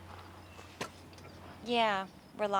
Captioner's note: spits